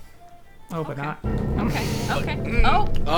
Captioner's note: dramatic sound effect